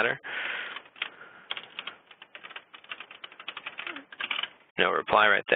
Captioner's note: typing